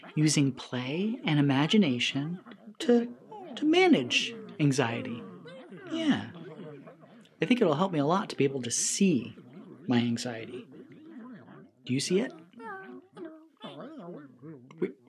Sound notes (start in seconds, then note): 4.4 critters mumbling; 10.8 critters mumbling